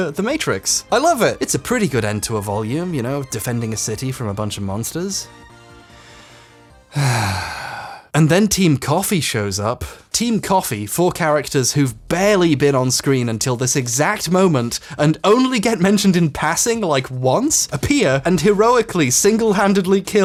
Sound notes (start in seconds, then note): 5.3 inhales deeply; 6.9 exhales dejectedly